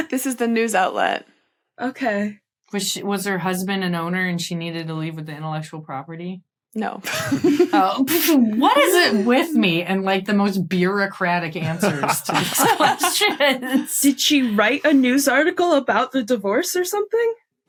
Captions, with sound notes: This is the news outlet. Okay. Was sh— Was her husband an owner, and she needed to leave with the intellectual property? No. (giggles) Oh. What is it with me and the most bureaucratic answers to these questions? (group laughing) Did she write a news article about the divorce or something?